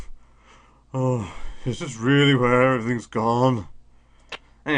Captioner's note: sigh